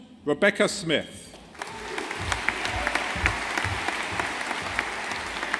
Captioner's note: audience applauding